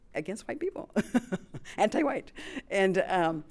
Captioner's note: chuckles